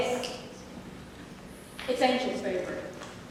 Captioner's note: crowley snaps fingers